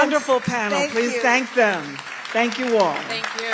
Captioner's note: applause